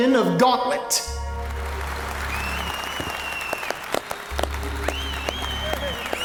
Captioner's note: crowd cheering and applauding